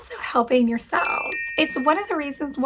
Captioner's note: bells chiming